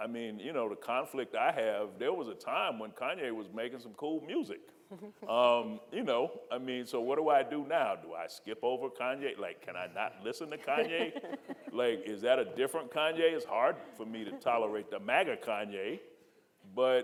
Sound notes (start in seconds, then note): 10.4 panelists laughing